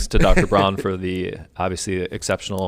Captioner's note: laughing